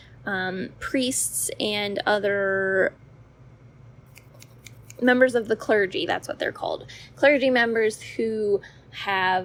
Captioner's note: snapping